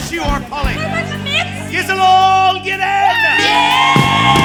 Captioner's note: cheers